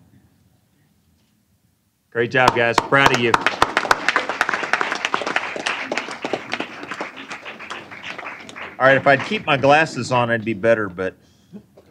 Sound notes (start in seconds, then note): 5.8 applause